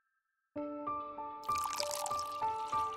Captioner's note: pouring tea